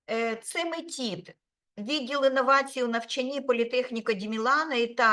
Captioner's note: speaking Ukrainian